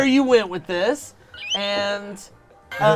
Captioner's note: squealing